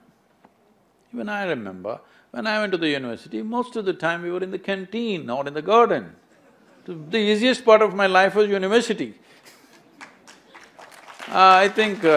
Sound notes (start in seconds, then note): 9.8 applause; 9.9 laughs